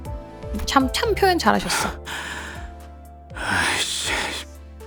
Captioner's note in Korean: 한숨; 헉 소리